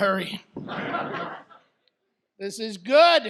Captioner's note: audience laughs